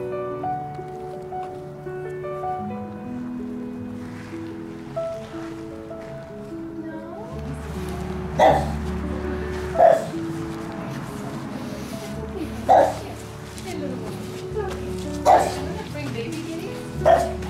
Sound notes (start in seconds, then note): 8.3 bark; 9.7 barks; 15.2 bark